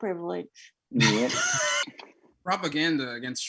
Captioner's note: laughing